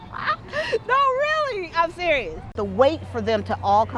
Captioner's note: laughs